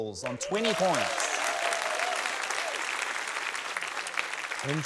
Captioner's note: cheering, applause